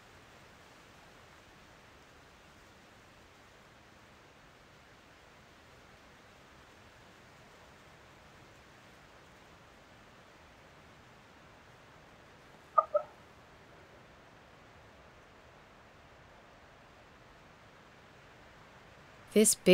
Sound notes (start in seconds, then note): 3.9 moose call